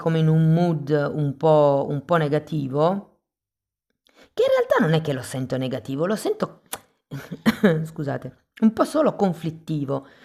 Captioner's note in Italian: risate